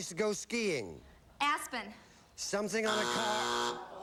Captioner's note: buzzer